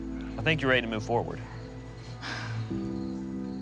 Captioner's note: sighs